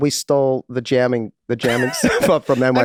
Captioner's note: Rob and Charlie laughing happily